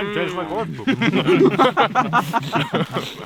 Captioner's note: all laughing